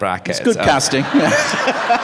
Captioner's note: laughter